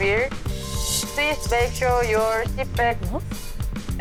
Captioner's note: spine-chilling sound effect